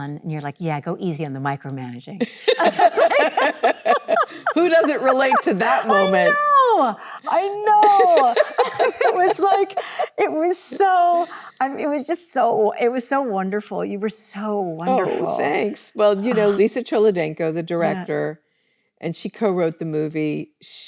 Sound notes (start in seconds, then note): 2.5 both laughing; 8.3 Annette laughs